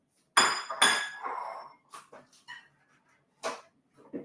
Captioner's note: plates clatter